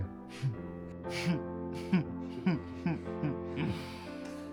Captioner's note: chuckling